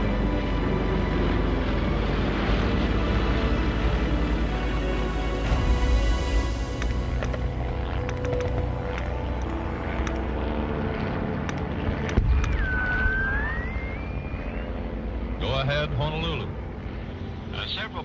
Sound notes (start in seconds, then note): 0.3 airplanes buzzing; 7.1 airplanes buzzing; 7.1 telegraph clicking; 12.3 radio whistling